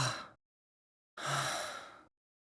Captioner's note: tired breath